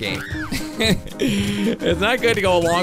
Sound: laughs

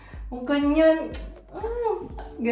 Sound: mom voice

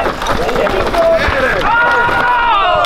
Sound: crowd

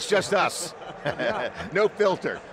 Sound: men chuckling

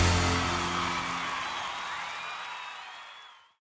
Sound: crowd cheering

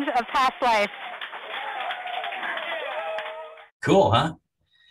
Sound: crowd cheering

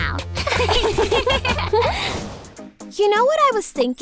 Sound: giggling

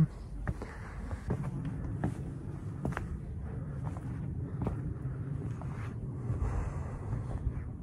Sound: footsteps

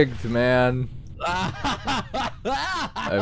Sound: laughing

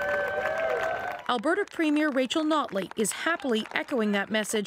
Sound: applause

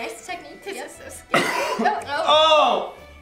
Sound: coughs

